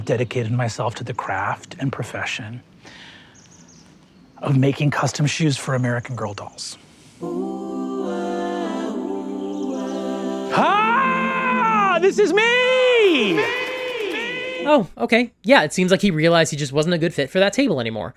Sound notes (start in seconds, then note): 7.2 uplifting music; 13.0 echo reverberates